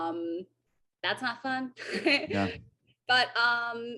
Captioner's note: AJ laughs